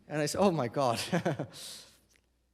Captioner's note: chuckles